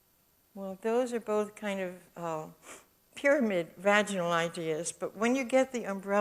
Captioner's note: sniffs